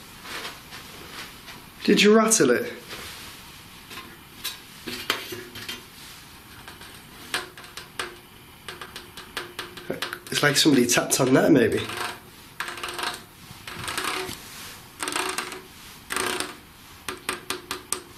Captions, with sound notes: Did you rattle it? (tapping) It's like somebody tapped on that, maybe. (scraping)